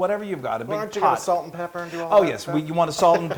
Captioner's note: laugh